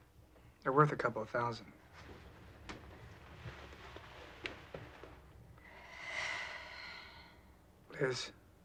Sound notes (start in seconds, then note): 5.6 liz sighs